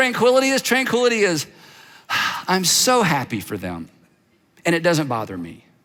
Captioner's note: sighs